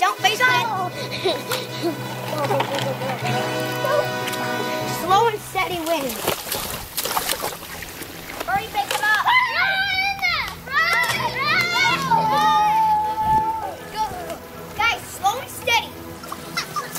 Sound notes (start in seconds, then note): 9.2 excited screaming